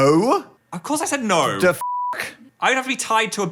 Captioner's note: beeping